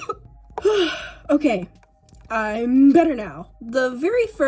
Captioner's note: coughing; sigh